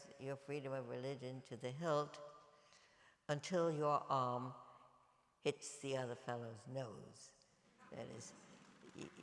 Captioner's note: applause